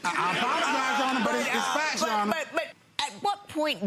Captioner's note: audience laughs